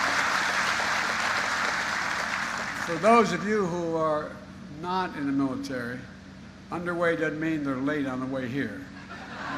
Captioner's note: applause; applause